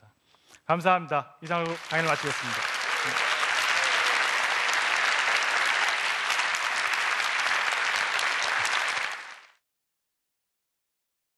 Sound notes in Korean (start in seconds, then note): 4.5 박수